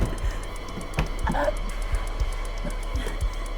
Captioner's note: Tina gasping